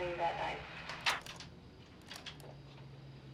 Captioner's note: click